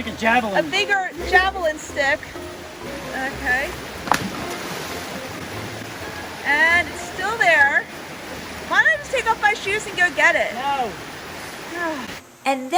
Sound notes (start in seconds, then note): 4.4 water splashes; 11.7 sighs